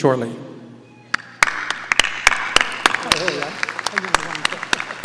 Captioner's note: audience applauding